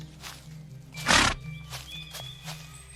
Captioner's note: snort